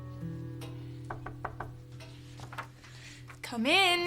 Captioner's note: Julie knocking on the door